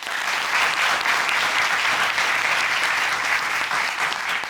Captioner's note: applause